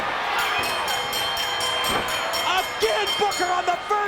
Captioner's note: bell ringing